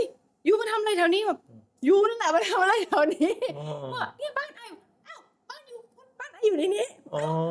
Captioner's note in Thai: เสียงหัวเราะ